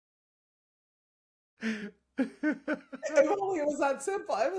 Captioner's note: laughing